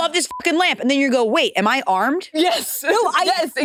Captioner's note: beep